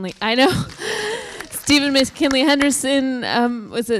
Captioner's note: applause